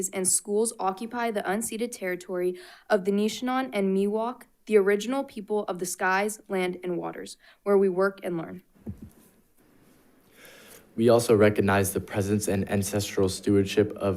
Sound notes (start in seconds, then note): 8.8 mic thuds